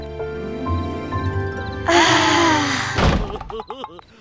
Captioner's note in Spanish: Suspiran con agrado